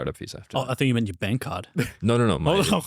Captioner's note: laughs